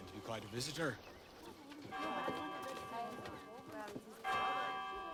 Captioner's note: church bell continues